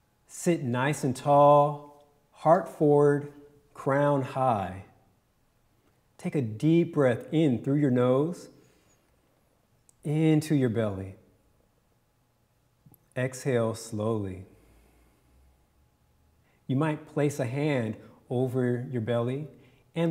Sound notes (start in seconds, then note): 8.9 inhales; 14.5 exhales